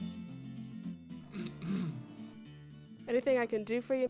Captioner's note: clears throat